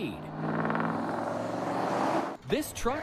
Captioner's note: traffic droning